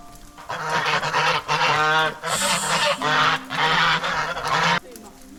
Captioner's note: hahahahahahaha